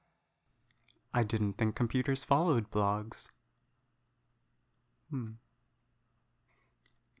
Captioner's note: momentary silence